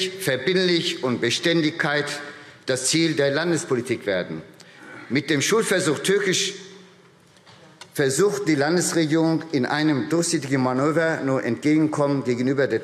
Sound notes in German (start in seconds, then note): none